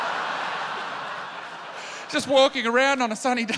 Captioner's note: laughter